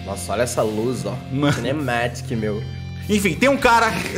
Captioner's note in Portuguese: riso